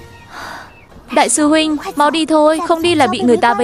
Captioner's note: sigh